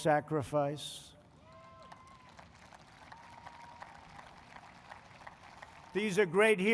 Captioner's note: applause